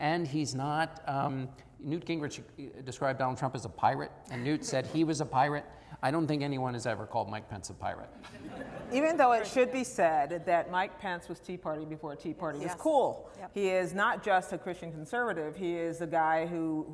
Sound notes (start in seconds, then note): 8.2 laughter